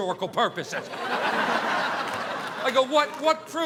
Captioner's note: audience laughing